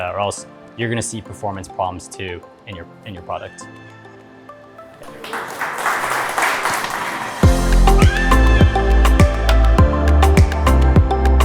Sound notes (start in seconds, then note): 5.0 audience applauding; 8.8 upbeat music